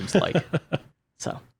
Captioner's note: laughs